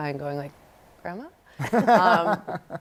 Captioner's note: laughter